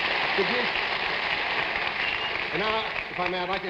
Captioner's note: audience applauding